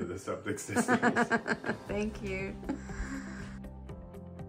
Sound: laughs

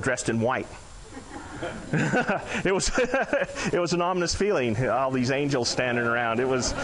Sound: audience laughing; laughing

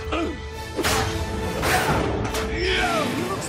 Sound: grunting

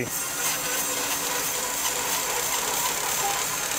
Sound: saw buzzes

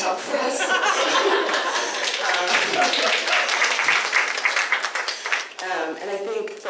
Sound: audience laughter and applause

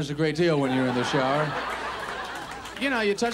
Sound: audience laughs

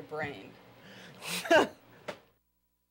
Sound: chuckles

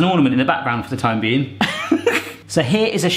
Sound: laughing

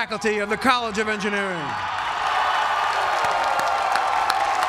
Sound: applause

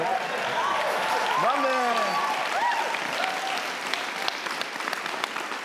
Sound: audience cheers

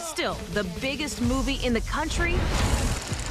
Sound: cut to static

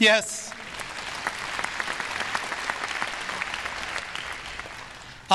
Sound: audience applause

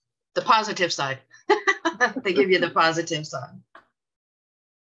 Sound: laughs

